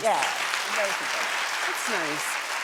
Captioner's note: audience applauds